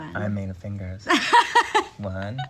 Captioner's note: laughing